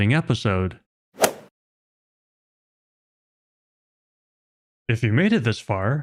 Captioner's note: golf ball hit sound effect